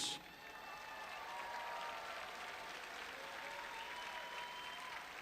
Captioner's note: audience applauding and cheering